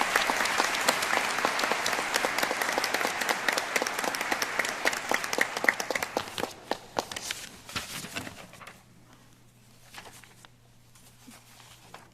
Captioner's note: applause